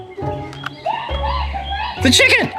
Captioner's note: clucks